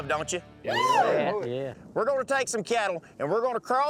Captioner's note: cowboys cheering, agreeing